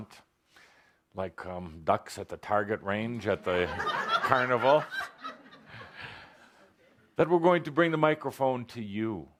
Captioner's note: laughter